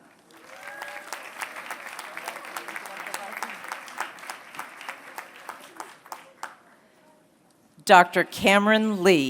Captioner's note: applause